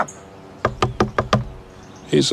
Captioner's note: knocking on door